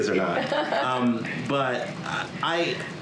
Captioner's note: laughter